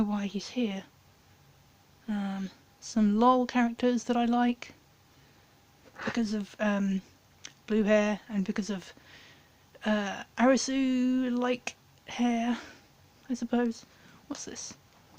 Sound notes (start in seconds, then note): none